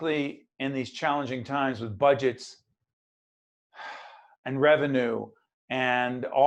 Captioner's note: sigh